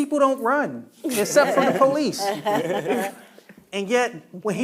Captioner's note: panelists chuckling